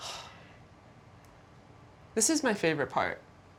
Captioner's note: sighs